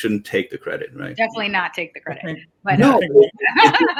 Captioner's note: laughs